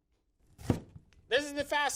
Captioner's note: chop